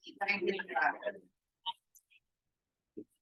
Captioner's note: indistinct chatter